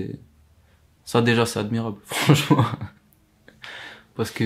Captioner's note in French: rires